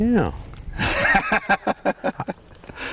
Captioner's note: laughter